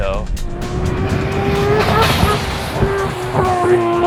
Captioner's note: car engine revving